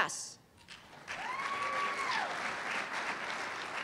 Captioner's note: applause